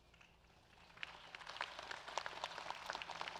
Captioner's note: applause